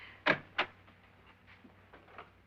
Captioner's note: door opening